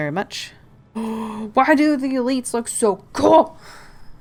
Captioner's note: gasp